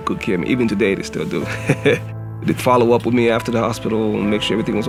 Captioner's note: laugh